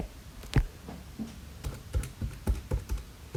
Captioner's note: typing on calculator